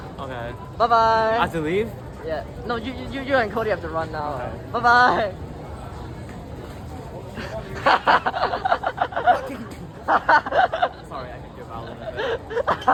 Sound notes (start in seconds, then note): 7.4 laughs